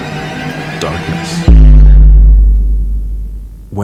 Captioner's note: boom, then silence